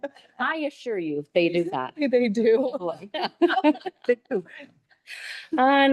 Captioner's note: people laughing; laughing